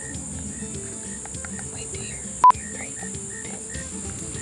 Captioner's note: beep